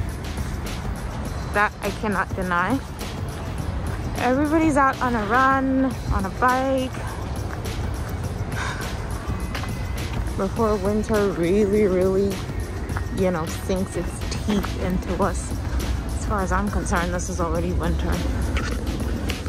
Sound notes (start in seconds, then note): none